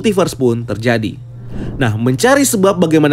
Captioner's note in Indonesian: suara transisi